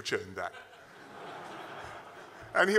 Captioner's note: laughter